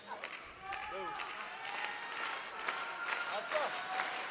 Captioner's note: crowd claps rhythmically